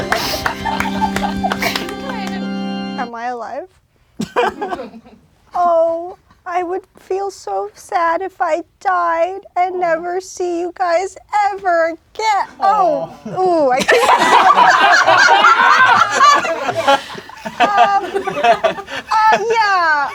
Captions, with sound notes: (organ music playing) - Am I alive? (crowd laughing) Oh, I would feel so sad if I died and never see you guys ever again. Oh, ooh. (crowd laughing) Um Yeah.